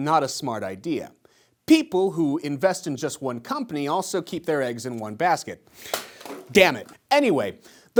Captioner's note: drops basket